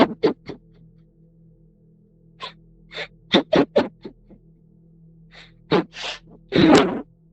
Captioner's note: crying